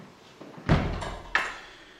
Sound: door closes

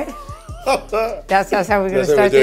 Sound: Idris laughing

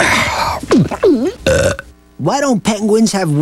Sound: burp

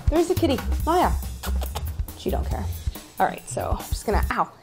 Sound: softly making kissing calls

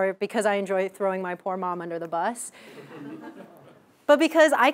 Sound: laugh

